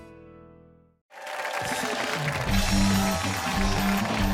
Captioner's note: cheering